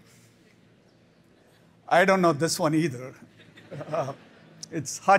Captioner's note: laughter